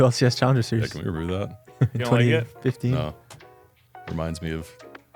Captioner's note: laughs